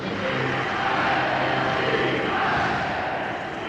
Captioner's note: cheering